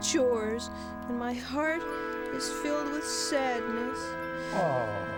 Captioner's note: sighs